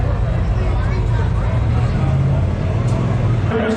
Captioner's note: engine revving